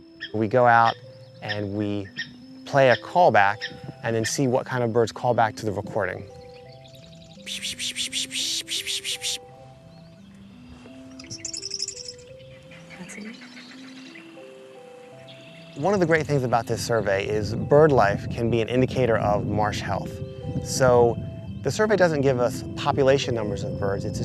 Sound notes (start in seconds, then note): 7.4 pishing sounds; 10.9 birds calls